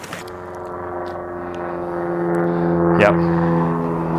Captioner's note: plane engine whirring